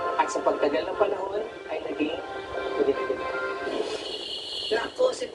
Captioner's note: crickets